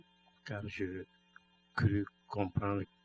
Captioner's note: speaking french